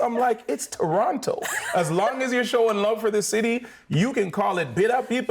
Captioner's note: laughing